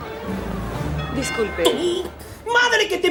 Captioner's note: ding dong